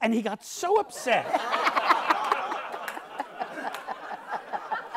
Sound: audience laughs

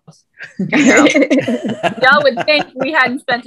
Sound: laughing

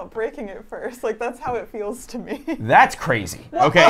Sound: laughs

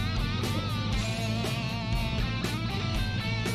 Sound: motor running

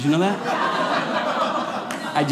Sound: audience laughing

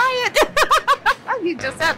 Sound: laughs

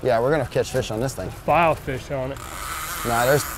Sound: reel whirring

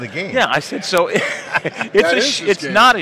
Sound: laughing

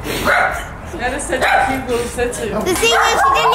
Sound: crying sounds; dog barking

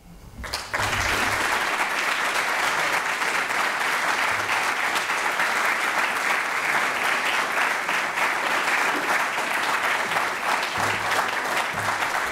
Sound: applause

